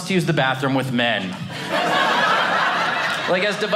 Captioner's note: audience laughing